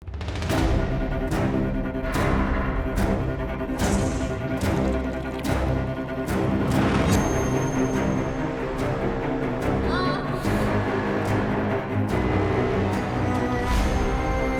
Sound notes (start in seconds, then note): 0.1 dramatic music; 9.8 woman groans